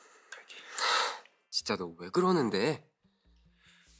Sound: sigh

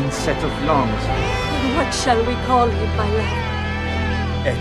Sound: crying

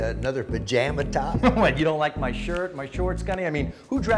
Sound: laughter

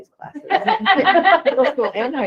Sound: group laughing

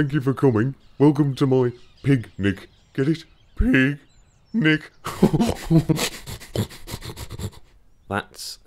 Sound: laughs

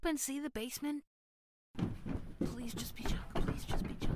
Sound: whispering to themself

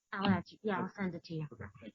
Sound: chatter

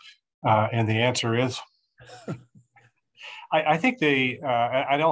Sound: chuckling

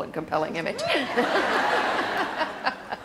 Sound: audience cheers and laughs

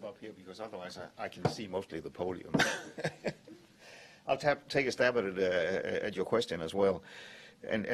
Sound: laughter

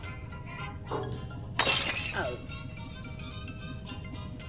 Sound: glass breaks

